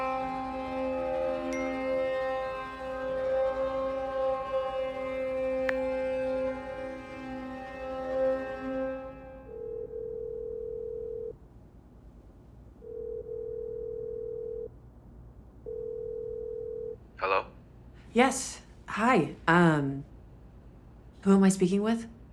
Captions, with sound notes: (phone dings) (line ringing) - Hello? - Yes. Hi. Who am I speaking with?